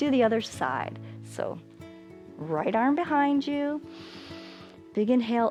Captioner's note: inhales